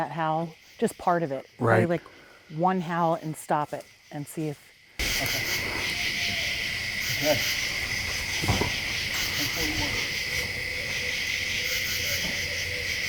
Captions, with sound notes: - Do you wanna play that howl, just part of it, play like one howl and stop it and see if. (insects chirping)